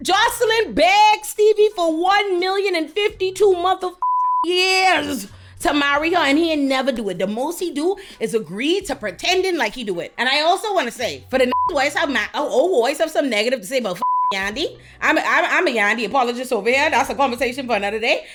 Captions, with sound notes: Jocelyn begs Stevie for 1,052,000 years. To marry her and he ain't never do it. The most he do is agree to pretending like he do it. And I also wanna say, for the (beep) voice of, oh, voice of some negative, to say about (beep) Yandy. I'm a Yandy, apologize over here. That's a conversation for another day.